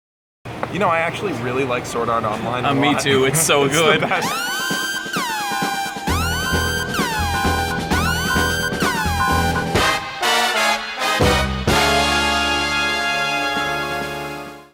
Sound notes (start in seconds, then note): 4.2 Kill Bill siren